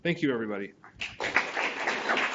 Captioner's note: audience applauding